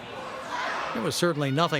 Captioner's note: spectators shouting